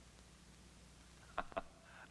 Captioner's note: laughing